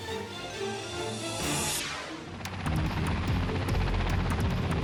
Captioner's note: dramatic music; air whooshes